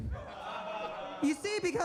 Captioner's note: audience laughs